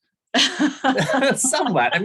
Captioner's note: laughter